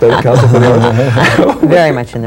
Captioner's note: laughter drowns out speaker